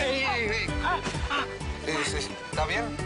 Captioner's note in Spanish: Quejidos